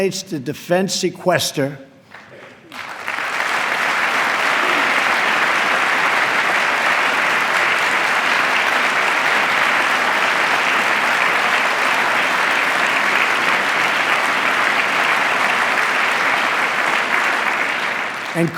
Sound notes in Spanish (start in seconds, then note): 4.5 aplauso